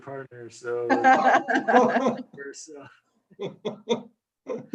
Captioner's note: laughs